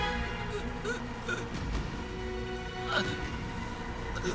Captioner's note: gasping